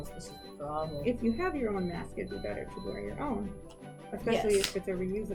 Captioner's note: beeping stops